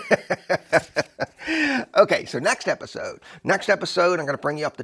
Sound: laugher

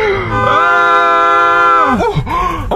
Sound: horn honking; screaming

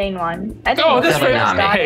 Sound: group chatter

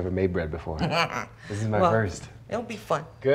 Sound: laughs

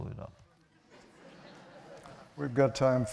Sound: laughter

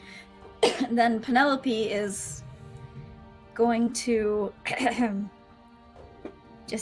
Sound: clears throat

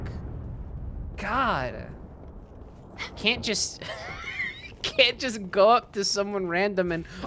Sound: laughing

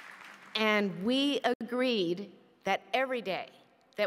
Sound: applause

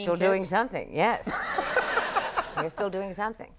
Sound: Conan and audience laughing

